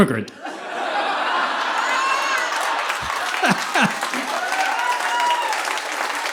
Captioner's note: audience laughing; audience applauding